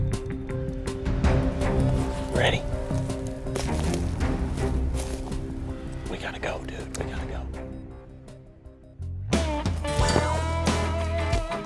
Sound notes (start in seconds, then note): 3.0 whispering